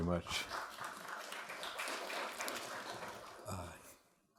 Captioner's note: audience clapping